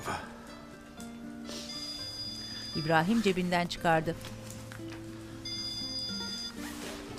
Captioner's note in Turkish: Telefon zil sesi